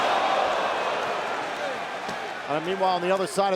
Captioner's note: crowd exclaims